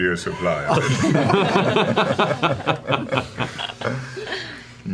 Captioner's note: laughter